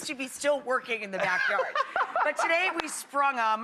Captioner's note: laughing